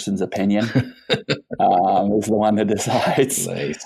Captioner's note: laughs